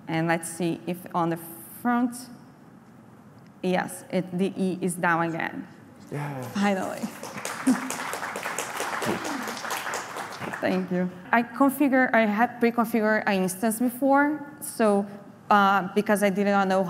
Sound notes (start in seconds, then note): 6.4 applause